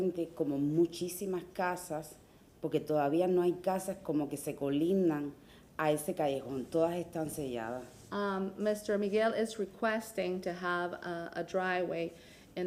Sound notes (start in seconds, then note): 2.1 speaking through interpreter